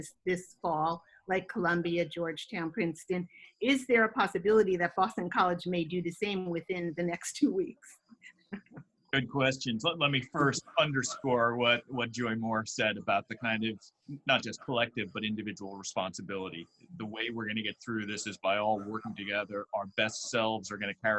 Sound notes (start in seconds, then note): 9.1 laughs